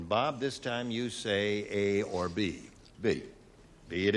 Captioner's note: none